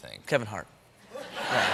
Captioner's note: laughter